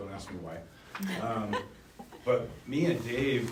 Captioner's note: laughing